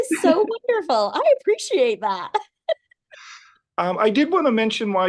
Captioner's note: laughs